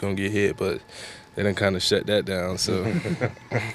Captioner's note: chuckles; laughter